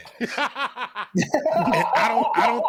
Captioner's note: laughter